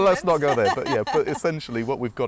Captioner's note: laugh